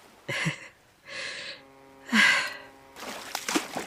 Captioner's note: another boat horn; splash, brief swimming sounds, ocean ambience fades out